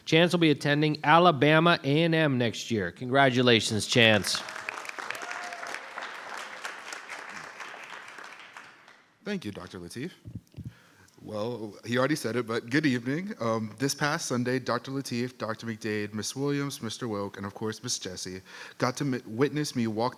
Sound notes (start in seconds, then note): 4.0 audience applauding